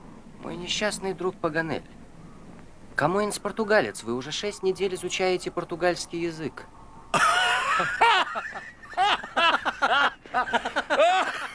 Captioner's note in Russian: смех